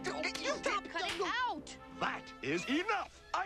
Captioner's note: bickering